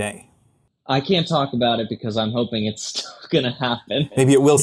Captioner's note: laughs